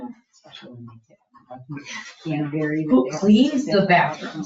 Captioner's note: speaking distantly